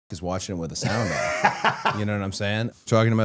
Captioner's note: Matt laughing